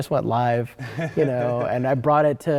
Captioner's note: laughs